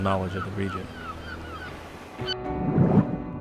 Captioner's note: seagulls mew